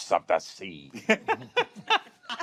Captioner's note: laughter